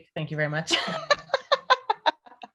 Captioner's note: laughter